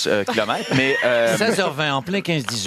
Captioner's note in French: rires